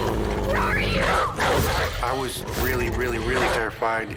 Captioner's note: growling & barking